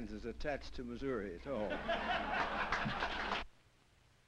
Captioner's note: laughter